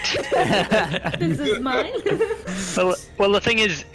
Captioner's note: more giggles